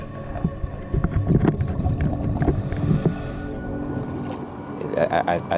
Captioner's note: underwater sounds continue